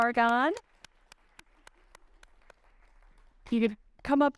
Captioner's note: audience clapping